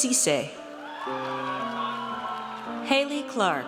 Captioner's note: audience cheers